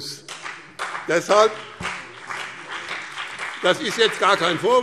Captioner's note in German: Beifall BÜNDNIS 90/DIE GRÜNEN und CDU